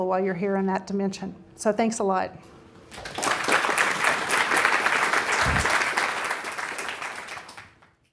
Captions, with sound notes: while you're here in that dimension. So thanks a lot. (audience clapping)